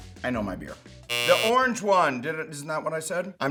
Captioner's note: buzzer sound